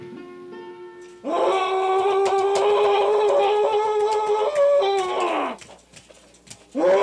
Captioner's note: fists thudding; man yelling